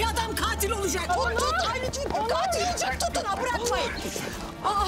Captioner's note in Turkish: Bağrışma sesleri